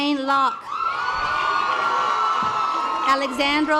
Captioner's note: audience applause